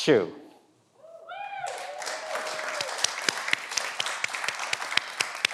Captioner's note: everyone applauds